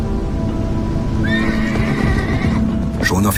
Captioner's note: horse whinnying